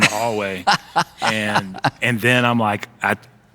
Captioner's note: laughing